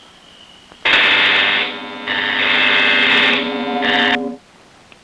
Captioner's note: alarms blaring